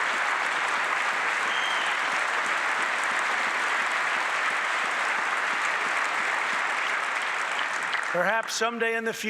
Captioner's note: applause